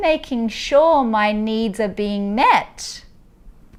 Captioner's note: none